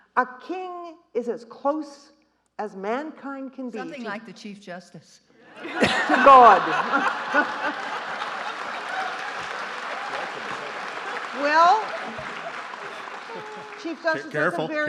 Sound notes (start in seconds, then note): 5.7 audience laughing; 7.0 laughs; 7.5 audience applauding